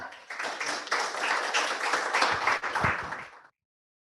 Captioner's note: applause